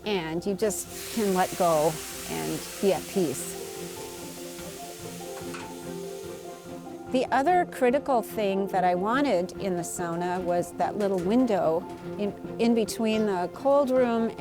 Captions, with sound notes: and you just can't let go and be at peace. (hissing sound) The other critical thing that I wanted in the Sauna was that little window in between the cold room